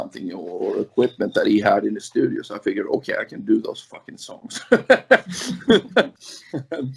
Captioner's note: laughs